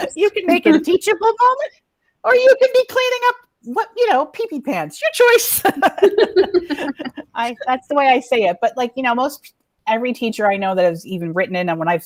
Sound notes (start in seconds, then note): 5.6 laughs